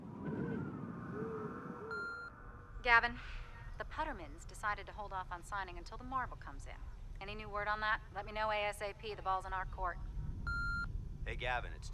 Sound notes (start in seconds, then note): 1.9 beeping; 3.0 voiceover; 10.4 beeping; 11.7 voiceover